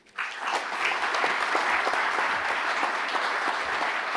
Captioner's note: audience applauding